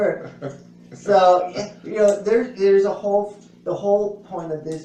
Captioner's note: laughs